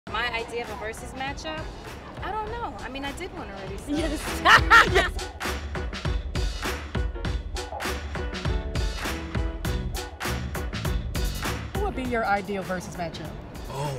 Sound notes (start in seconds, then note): 3.9 laughs; 5.7 upbeat music